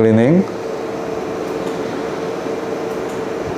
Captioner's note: clicking sound